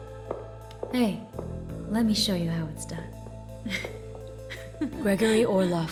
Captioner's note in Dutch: zwoele muziek; gegiechel